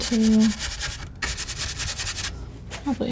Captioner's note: scratching